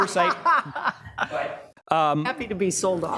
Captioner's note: laughing